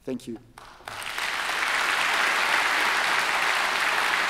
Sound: applause

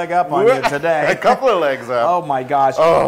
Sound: laugh

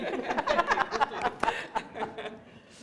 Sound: laughter

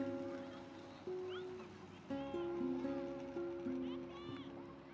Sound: kids scream

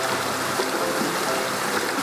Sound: upbeat music; water rushing

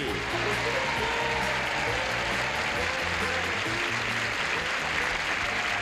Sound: applause and cheering

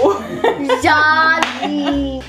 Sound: laughing

